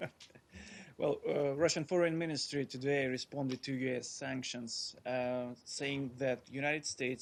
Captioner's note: laughter